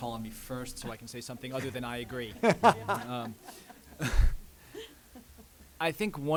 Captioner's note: laughs